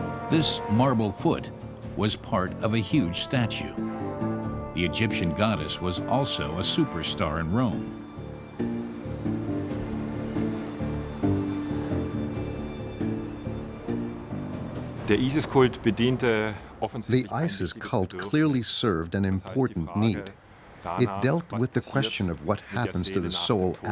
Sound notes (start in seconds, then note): 15.0 speaking in German